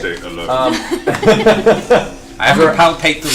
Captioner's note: all laugh